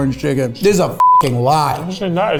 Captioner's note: beep